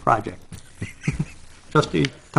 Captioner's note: chuckling